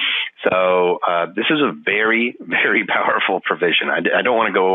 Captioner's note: laughing